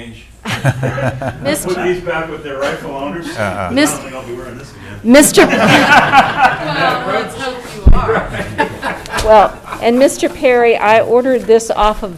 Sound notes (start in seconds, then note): 5.3 all laughing